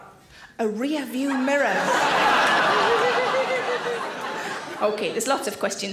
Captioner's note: audience laughing